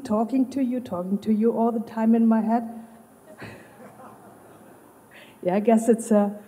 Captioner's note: Lachen